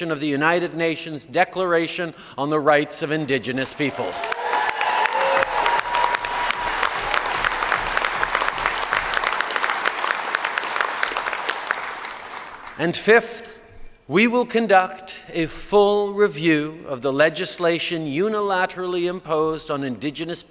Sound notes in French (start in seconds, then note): 3.6 Acclamations et applaudissements